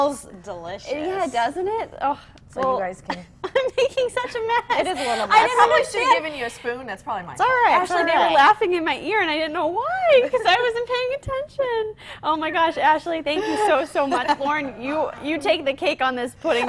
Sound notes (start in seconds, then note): 3.4 laughter